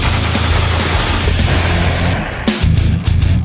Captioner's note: intense rock music continues; weapon firing; intense rock music continues